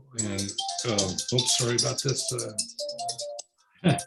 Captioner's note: cellphone ringing